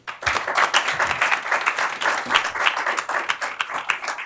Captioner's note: applause